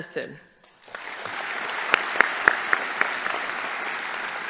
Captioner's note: audience applauding